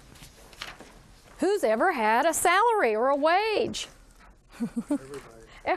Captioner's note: chuckles